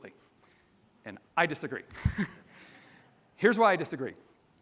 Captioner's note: chuckles